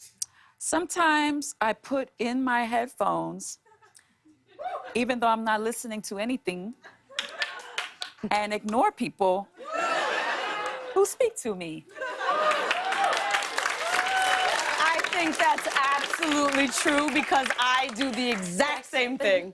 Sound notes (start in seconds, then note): 6.5 laughter; 12.2 cheers and applause